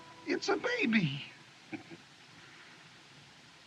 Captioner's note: Curley Chuckles